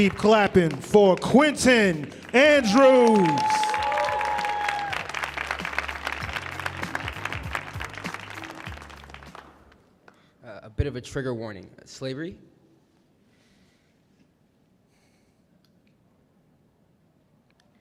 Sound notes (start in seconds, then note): 3.7 audience cheering; 3.7 upbeat music